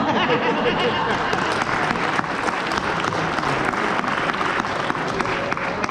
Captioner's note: applause